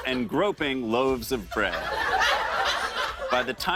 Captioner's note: laughter